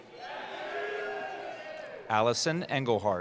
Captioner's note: cheering